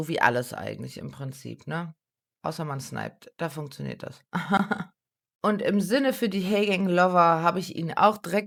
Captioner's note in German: gelächter